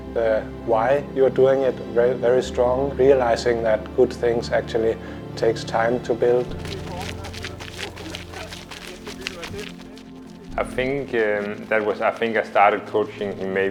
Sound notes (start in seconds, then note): 5.8 footsteps crunching